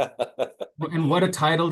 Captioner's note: laughs